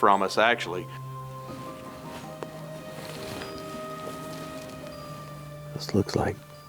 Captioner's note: gentle music; clothes rustling